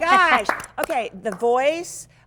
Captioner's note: clapping